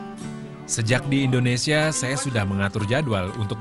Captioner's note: non-english speech